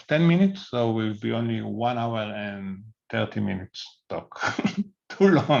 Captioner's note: laughs